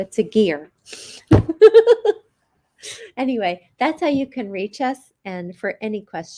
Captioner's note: chuckles